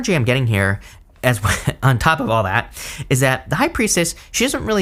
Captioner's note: giggles